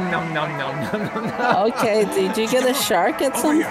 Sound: laughs

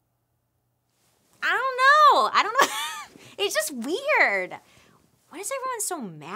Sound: laughs

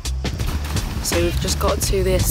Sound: water splashes

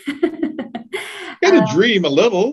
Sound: laughs

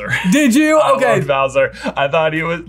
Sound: laughs

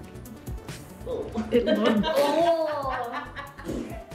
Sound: laughs

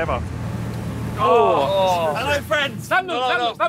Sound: squid slaps

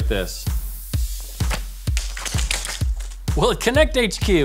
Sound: cards rustle and snap

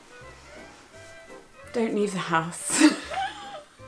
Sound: laughs

